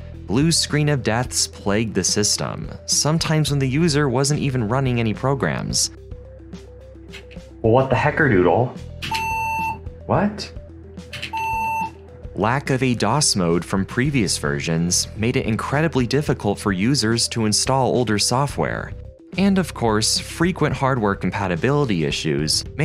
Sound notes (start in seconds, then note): 9.0 beep; 11.2 beep